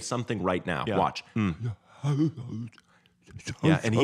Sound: babbles

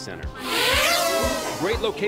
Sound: drone whirs

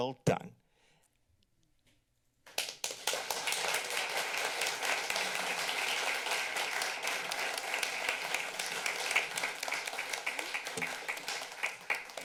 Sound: applause

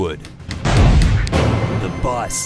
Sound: gunshot

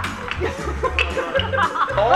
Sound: laughing

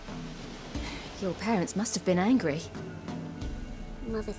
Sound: sigh

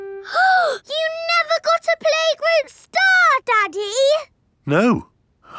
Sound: gasps

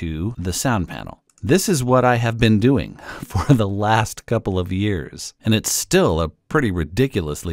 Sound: chuckle

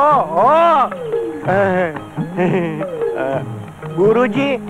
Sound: laughs

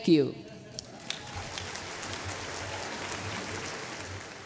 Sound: applause

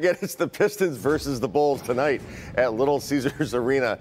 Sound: laughter

